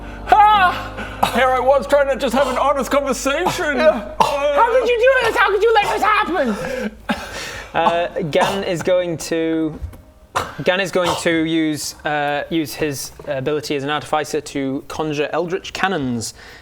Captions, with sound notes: ah Here I was just trying to have an honesty conversation urrrrrgh How could you do this how could you let this happen?? *scoffs* Gan is going to Gan is going to use uh use his ability as an artificer to conjure eldritch cannons